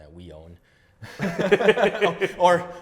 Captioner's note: laughs